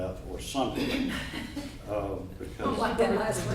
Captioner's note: chuckling